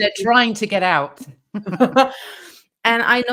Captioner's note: laughs